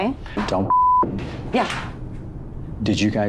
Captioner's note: beep